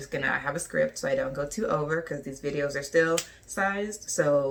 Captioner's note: snap